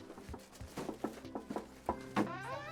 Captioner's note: knocking on door